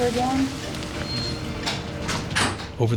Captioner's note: monitor beeps; voiceover